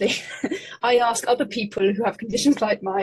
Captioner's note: laughing